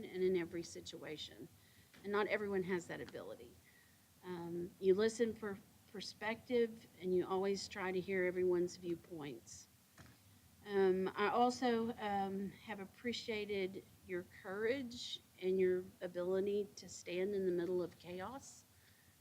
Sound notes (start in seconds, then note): none